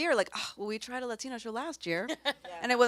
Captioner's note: scoffs